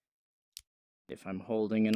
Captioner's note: click